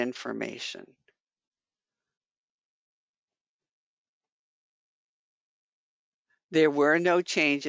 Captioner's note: 5 seconds pause